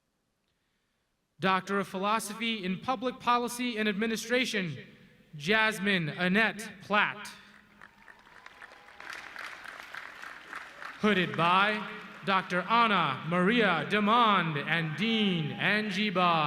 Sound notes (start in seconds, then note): 7.4 audience clapping